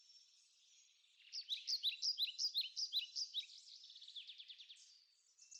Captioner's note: birds chirping